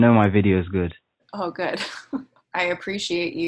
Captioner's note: laughs